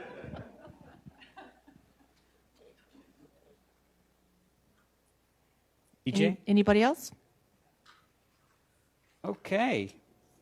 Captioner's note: laughter